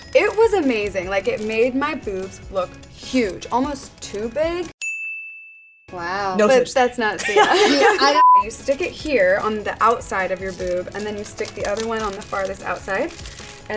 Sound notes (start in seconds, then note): 4.8 bell dings; 7.1 laughing